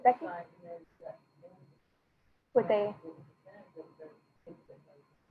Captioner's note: speaking faintly